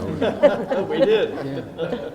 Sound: laughing

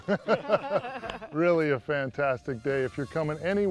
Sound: laughter

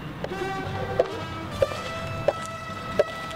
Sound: footsteps

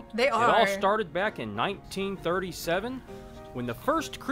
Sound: voice-over

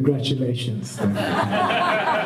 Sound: laughter

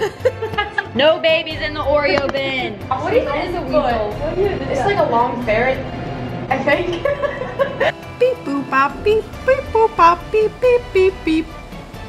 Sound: laughter

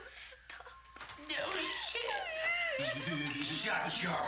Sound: laughs

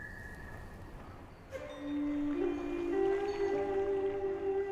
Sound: water streams

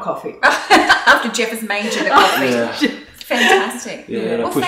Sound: laughs

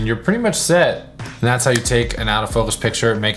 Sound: finger clicks

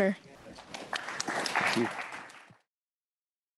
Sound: applause

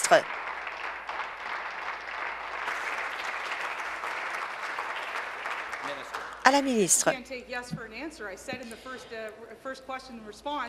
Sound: applause

